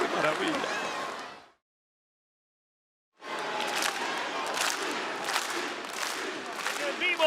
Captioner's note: applause